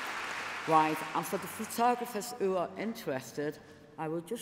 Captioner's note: applause